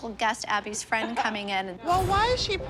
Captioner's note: laughs